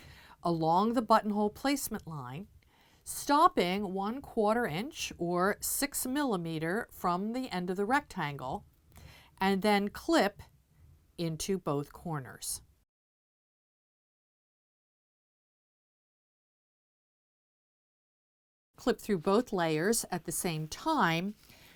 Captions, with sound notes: along the buttonhole placement line, stopping 1/4 inch or 6 mm from the end of the rectangle, and then clip into both corners. *No Sound Present* Clip through both layers at the same time